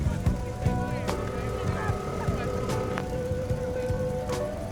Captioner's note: phone ringing